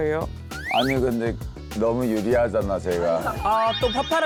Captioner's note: defeated sound effect